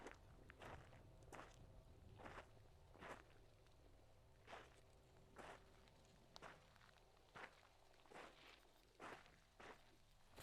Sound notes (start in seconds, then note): none